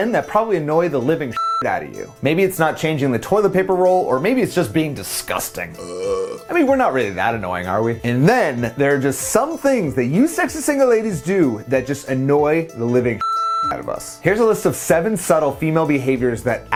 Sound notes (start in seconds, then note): 1.3 tone beeping; 5.7 burps; 13.2 tone beeping